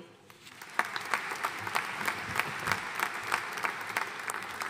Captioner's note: audience applauding